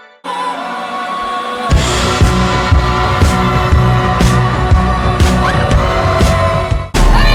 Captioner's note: screaming